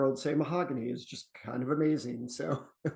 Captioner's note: chuckles